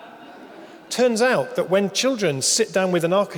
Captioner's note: audience laughing